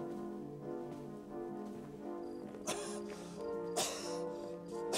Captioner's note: coughing